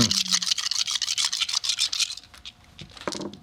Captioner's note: dice rattling